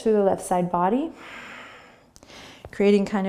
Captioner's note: breathing